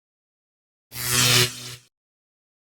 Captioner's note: electric buzzing